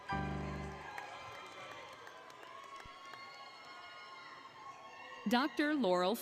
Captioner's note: applause, Cheering, Music; applause, Cheering